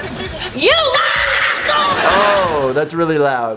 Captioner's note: yells